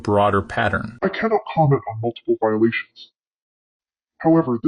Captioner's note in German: verzerrt